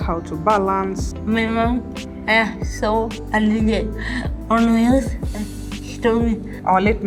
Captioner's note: speaking English